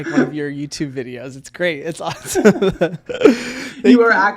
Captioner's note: laughs